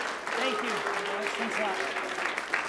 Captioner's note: applause